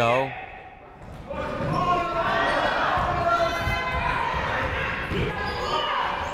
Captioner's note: people shouting in the crowd